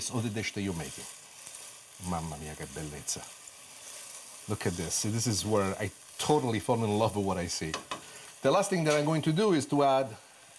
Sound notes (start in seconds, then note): 2.1 foreign language